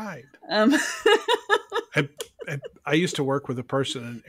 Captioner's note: laughs